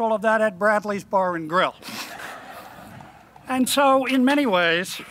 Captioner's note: laughing